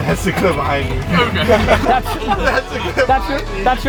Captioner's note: laughing